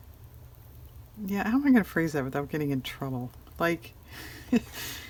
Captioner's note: laughs